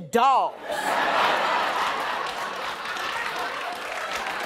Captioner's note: audience laughing; audience applauding